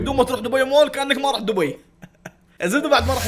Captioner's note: laughs awkwardly